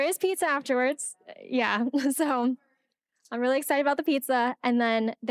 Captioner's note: laughing